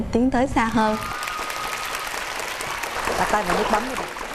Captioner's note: applause